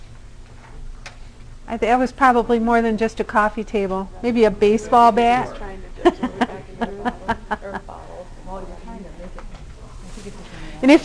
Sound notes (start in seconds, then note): 6.0 laughter